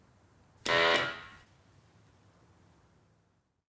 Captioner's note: machine blaring